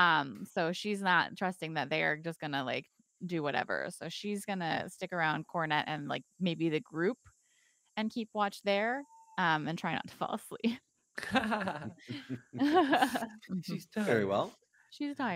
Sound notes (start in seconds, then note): 11.2 laughing